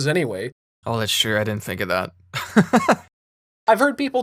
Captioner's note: laughter